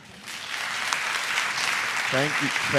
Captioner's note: attendees applauding